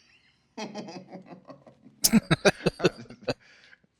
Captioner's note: laughing